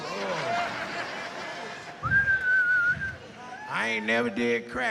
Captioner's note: whistles